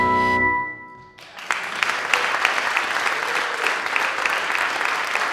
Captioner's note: applause